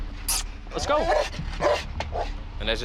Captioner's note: barking